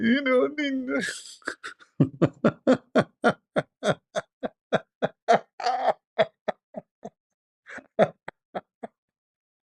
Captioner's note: Ketawa